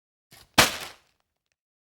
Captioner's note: bag drop